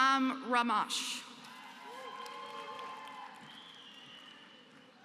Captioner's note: applause